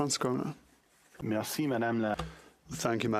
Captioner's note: speaking French